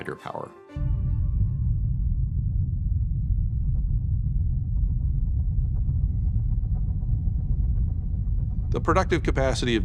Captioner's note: low rumble